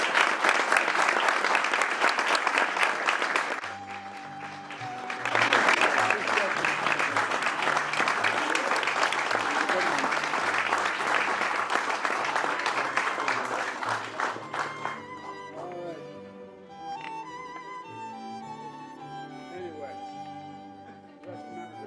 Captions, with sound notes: >> ALL RIGHT, IT IS OFFICIAL. [ APPLAUSE ]